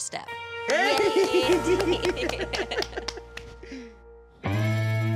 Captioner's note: both clapping